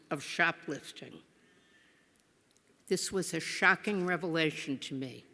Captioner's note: none